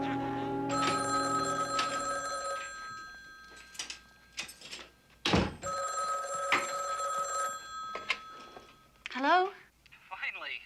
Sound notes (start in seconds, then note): 0.7 telephone ringing; 5.6 ringing continues; 9.4 Paul over phone